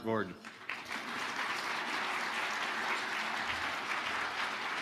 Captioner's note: audience applauding